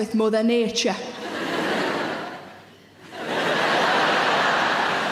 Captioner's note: audience laughing